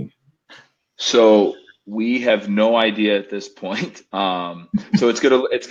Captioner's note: laughs